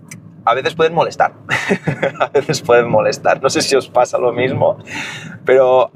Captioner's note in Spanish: risas